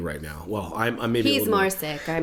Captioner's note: coughs